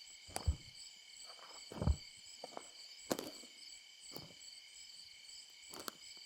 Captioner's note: heavy footsteps crunching